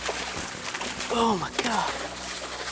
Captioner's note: water splashing